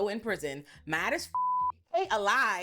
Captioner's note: beep